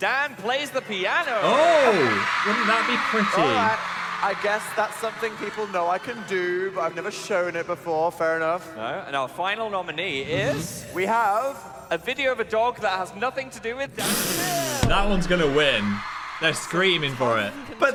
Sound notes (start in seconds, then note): 1.3 audience cheering; 14.8 laughing